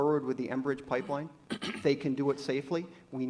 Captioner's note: off camera cough